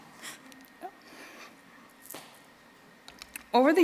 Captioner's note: crying